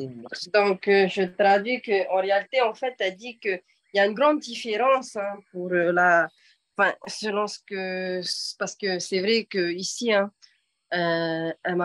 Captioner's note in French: En français